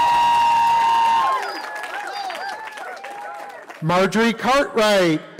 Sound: cheering

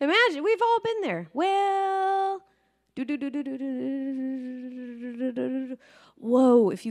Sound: speaker vocalizing

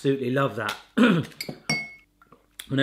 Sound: clears throat

